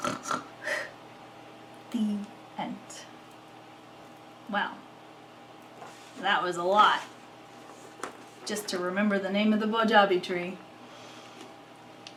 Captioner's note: yum yum, snore snore